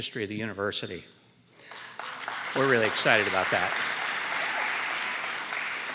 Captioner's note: applause